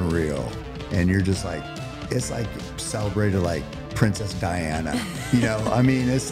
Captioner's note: laughter